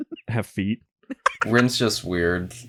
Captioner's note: cackles